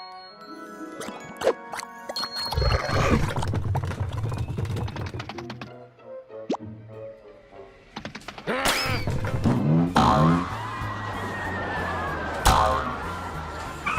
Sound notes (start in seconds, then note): 2.6 pigs growl; 9.8 boing boing; 10.1 riders screaming